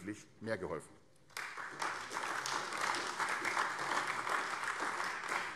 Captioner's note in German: Beifall AfD